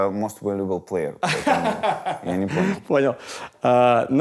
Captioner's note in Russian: смеётся